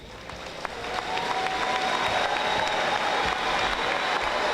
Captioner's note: audience applauding